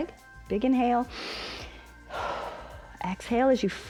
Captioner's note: inhales and exhales